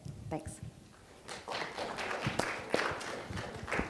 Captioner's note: applause